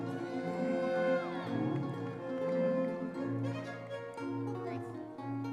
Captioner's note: audience members cheering